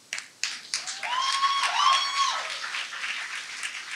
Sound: audience claps and cheers

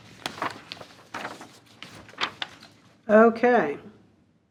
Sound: paper crackling

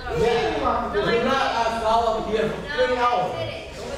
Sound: talking

